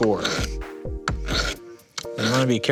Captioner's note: dulled grinding